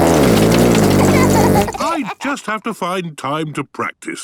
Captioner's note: laughter